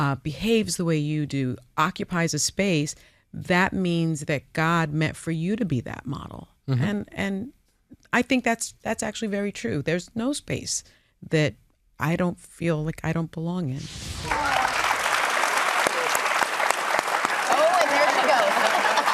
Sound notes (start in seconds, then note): 14.1 audience applauding